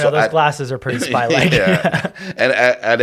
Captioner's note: both laughing